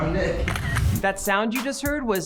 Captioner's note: camera shutter sound